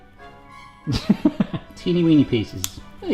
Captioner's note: laughs; snips